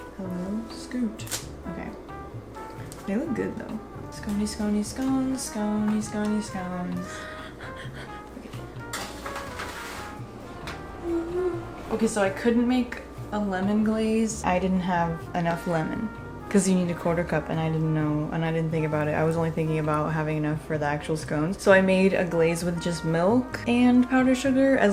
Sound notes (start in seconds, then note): 8.8 heavy breathing